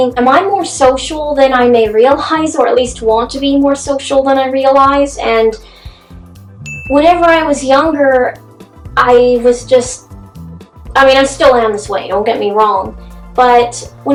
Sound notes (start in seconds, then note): 6.6 dinging sound